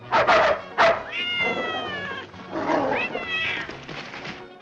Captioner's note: dogs barking; dogs roaring; cat meowing